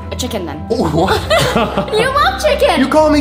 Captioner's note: laughing